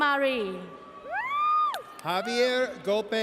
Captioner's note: audience cheers